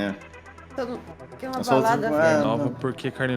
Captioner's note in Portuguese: resmungos